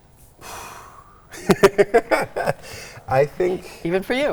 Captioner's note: laughs